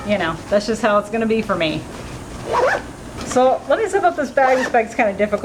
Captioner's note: zipper noises